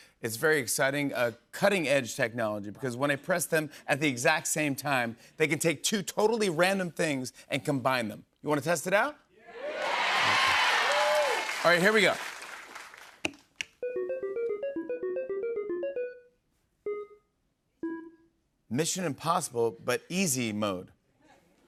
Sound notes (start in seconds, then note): 9.5 cheers and applause